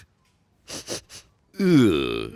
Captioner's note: sniffing